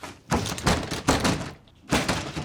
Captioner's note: door banging